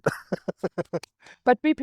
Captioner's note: laughs